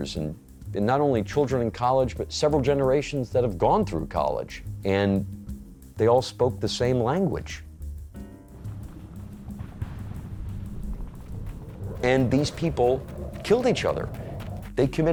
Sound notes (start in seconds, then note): 8.1 gentle music; 10.7 jet engine roaring